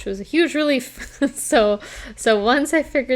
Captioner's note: chuckles